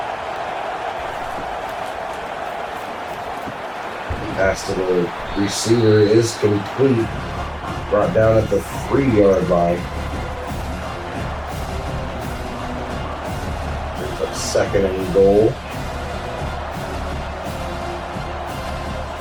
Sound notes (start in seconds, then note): 0.2 crowd Noises; 10.5 crowd Noises; 18.9 crowd Noises